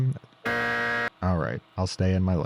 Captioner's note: buzzer droning